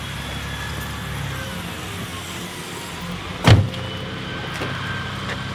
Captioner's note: sirens in background